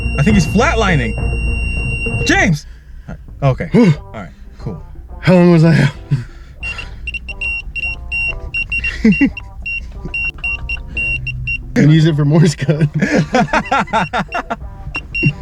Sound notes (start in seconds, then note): 6.6 repeated beeping; 8.3 laughs; 12.4 both laughing